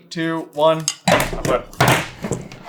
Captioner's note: bounce and SLAM!